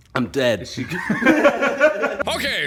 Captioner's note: laughter